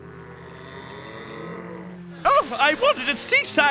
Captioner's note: mooing